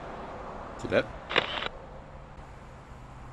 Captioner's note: camera click